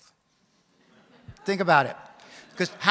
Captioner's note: audience laughs